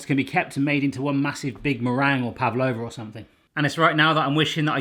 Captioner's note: none